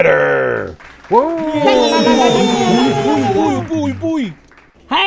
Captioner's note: everyone cheers and applauds